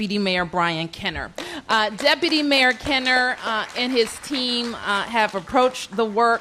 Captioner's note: applause